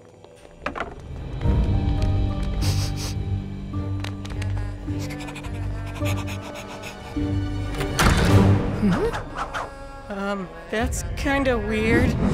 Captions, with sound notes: [sniffing] [panting] Huh? Uh that's kind of weird.